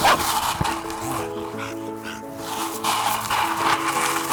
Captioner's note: Laci barking